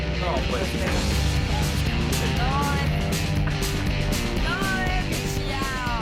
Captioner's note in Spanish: Exclamaciones